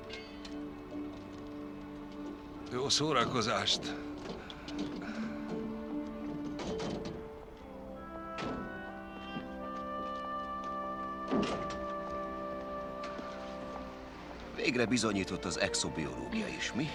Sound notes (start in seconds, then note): 4.8 chuckling